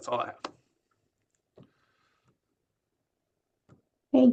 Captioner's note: silence